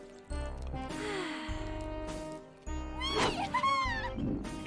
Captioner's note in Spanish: Petunia suspira